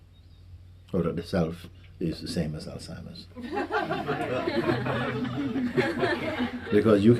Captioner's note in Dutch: gelach